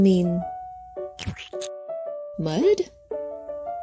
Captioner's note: mud splatting